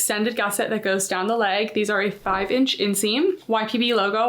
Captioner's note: text whooshing